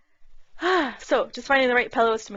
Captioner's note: sighs